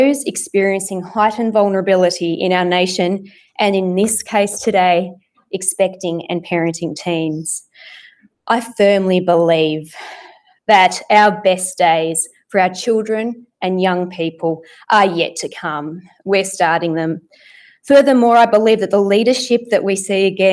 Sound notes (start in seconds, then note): none